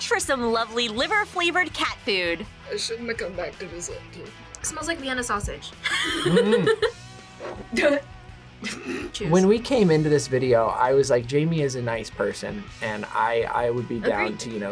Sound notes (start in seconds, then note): 5.8 laughs